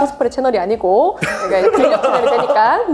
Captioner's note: laughs